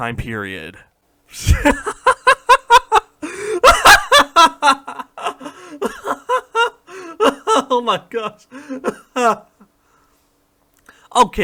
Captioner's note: laughter